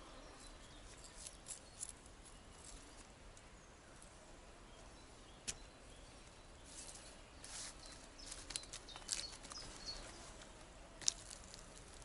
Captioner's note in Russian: Пение птиц